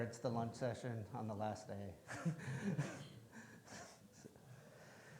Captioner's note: chuckles